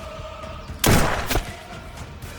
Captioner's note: gunfire pops